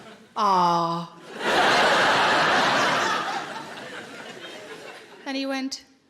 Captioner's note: audience laughing